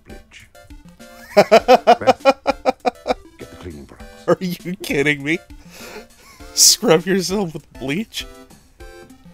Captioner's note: laughter